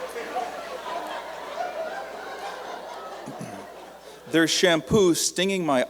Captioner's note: laughter